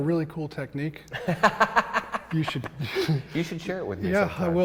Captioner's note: laughs